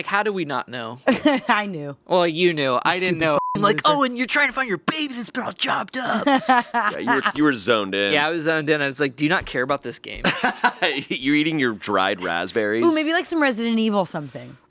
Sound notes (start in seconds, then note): 1.3 laughing; 3.0 beeping; 6.0 laughing; 10.3 laughs